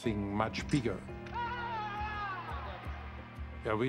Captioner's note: cheering